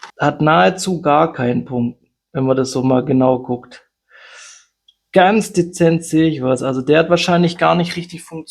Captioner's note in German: japst